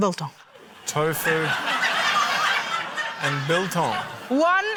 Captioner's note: laughter